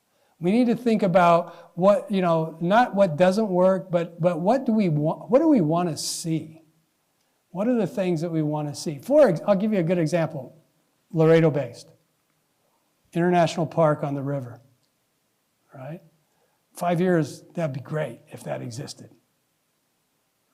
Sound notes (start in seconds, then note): none